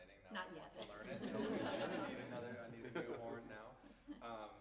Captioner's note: laughter